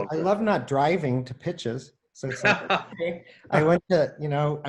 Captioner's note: laughs